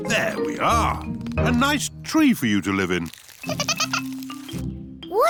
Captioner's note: giggling